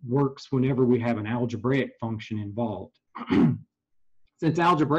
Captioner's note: cough